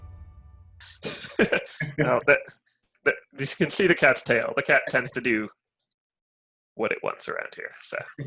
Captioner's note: laughter